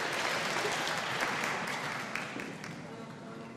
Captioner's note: audience applauding